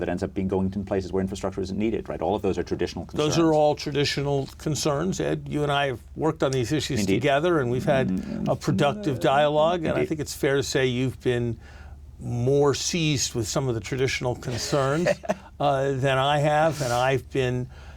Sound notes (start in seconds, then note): 14.4 laughs